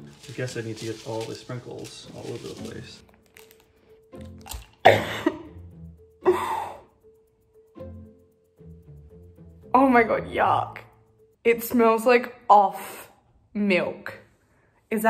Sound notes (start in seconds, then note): 4.8 coughs